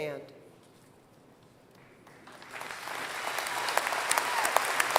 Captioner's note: applause